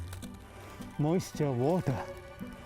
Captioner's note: plant cracking